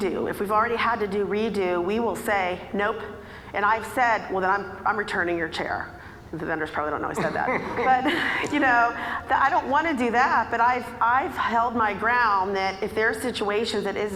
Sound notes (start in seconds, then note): 7.2 laughing; 7.2 audience laughing